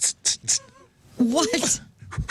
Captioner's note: laughing